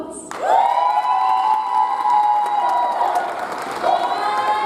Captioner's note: audience applauds